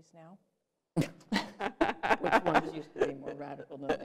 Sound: laughter

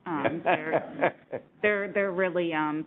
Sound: everyone laughing

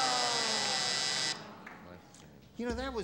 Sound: buzzer

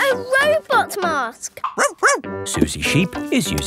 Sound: barks

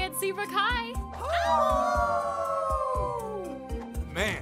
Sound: all howling

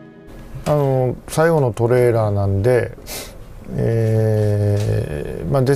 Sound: Hideo Kojima speaks in Japanese

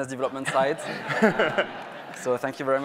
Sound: audience laughs

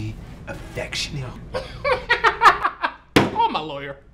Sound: laughs

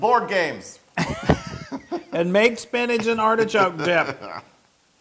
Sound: laugh

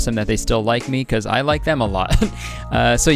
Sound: laughing

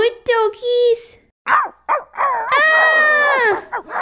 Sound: barking

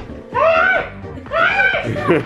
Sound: laughs; screams

